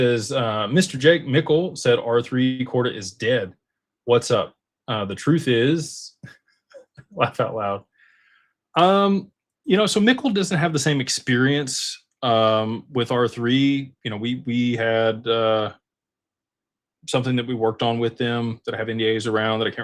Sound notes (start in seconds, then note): 6.4 laughter